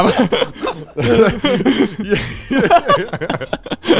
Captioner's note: all laughing